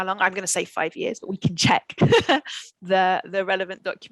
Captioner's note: laughs